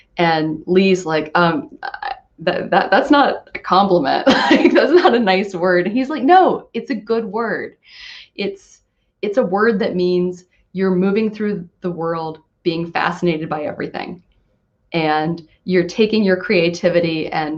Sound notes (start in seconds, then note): 5.5 laughing